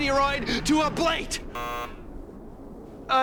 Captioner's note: buzzer